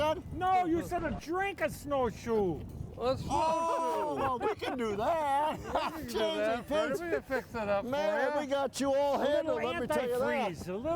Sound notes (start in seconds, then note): 6.4 all laughing